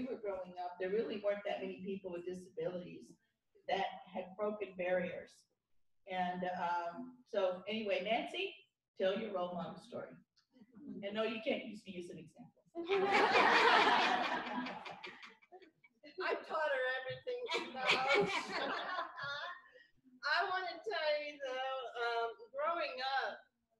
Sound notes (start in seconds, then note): 12.8 laughter; 17.4 laughter